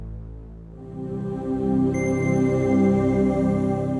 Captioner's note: chime